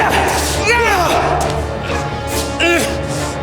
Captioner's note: Siegmund yelling; suspenseful music